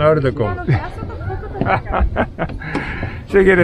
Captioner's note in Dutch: Gelach op de boot